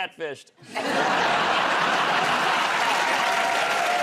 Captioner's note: laughter